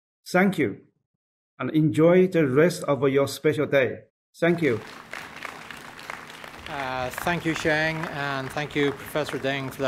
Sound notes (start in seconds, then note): 4.5 audience applauding